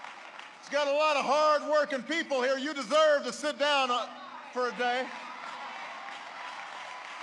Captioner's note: applause; applause